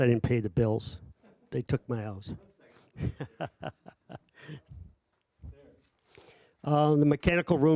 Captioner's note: laughing